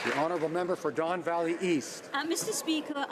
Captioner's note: some Applause